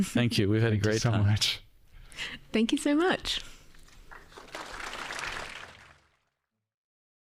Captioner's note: audience Applauding